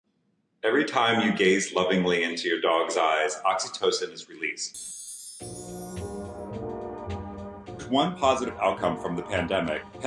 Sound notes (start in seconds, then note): 4.7 chimes jingle; 4.7 bright music